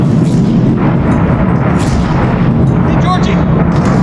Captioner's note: explosions booming continue